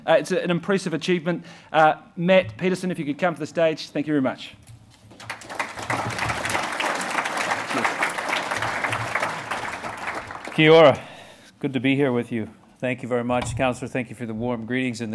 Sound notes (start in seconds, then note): 5.1 applause